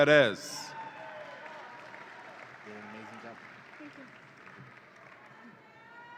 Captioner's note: audience applauds and cheers